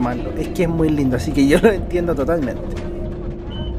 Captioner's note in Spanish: risas